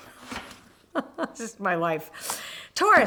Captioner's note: laughing